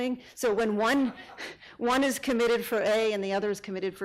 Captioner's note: audience laughing